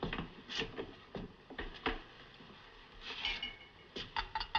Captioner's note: none